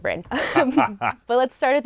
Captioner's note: laughing